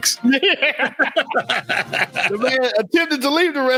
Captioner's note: laughing